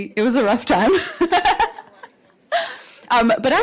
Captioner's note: laughter